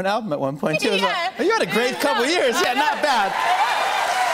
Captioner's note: cheers and applause